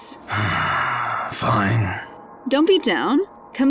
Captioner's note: sighs